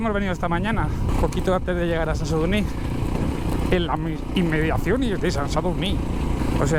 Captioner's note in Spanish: con voz de locutor